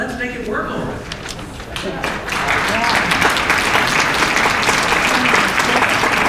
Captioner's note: applause